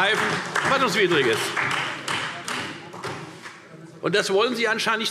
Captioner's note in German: Beifall Freie Demokraten und SPD